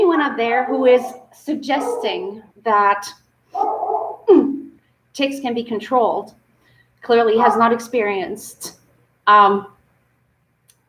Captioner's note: dog barking in background